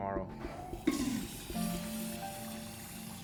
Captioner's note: toilet flushing